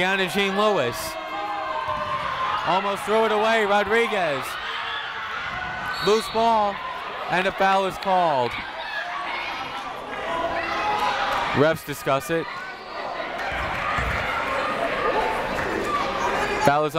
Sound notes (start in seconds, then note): 4.8 people shouting in the crowd; 5.9 whistle tweeting; 9.0 people shouting in the crowd; 14.2 people shouting in the crowd